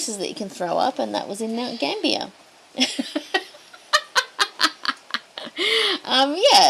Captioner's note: cackles